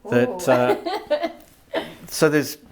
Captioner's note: laughing